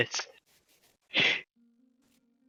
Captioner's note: inhale